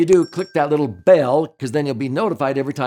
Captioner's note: bell chimes